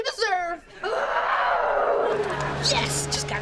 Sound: groaning

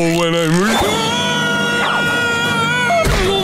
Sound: screaming

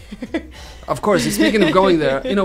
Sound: laughing

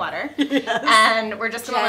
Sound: laughs

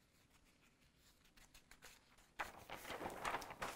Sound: paper crinkles

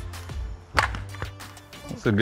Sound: ball cracks

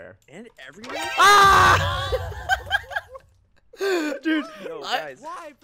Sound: shouting and laughter

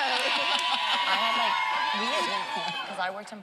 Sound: audience cheering

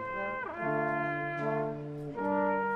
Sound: none

